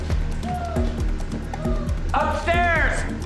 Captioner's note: chuckles